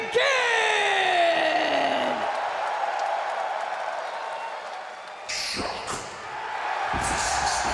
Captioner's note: crowd cheering